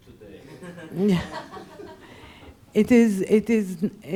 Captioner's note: laughing